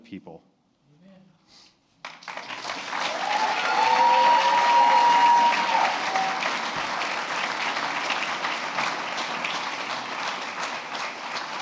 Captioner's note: applause